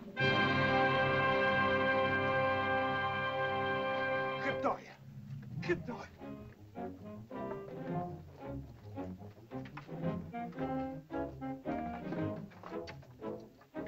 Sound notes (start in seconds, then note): 0.1 dramatic music; 4.5 Akhoba speaks in caveman language; 7.2 dramatic whimsical music